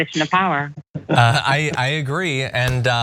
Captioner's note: laugh